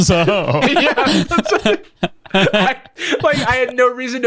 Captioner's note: laughs